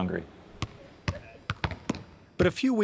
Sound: basketballs being dribbled

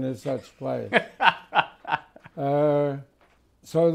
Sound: laughs

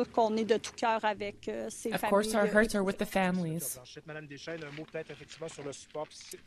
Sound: speaking French

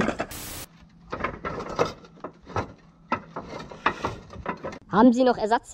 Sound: rattling

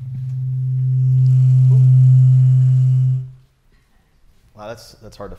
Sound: microphone feedback rings

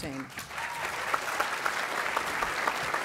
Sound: applause

